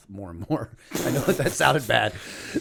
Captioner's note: chuckle